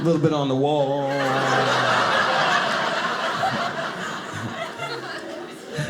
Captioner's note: audience laughing